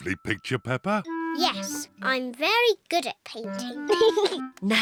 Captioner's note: giggles